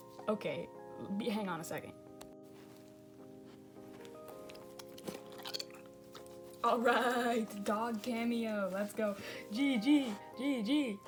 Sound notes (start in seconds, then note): 3.8 goldfish crunching